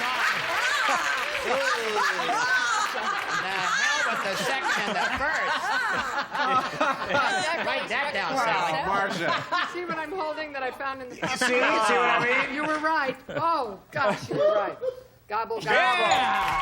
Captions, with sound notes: [cheers] - And come with the 2nd and the 1st. - [laughs] - Write that down, Sally. - Marcia. - See what I'm holding that I found in the-- - You see? See what I mean? - You were right. Oh, gosh, you were right.